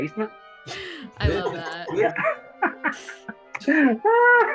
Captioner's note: all laughing